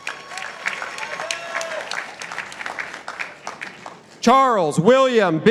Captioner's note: participants applauding